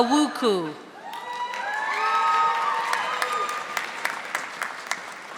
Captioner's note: audience applauding